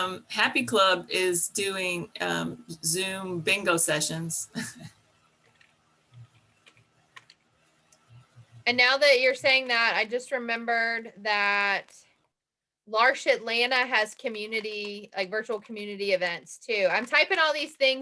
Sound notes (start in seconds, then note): 4.6 chuckle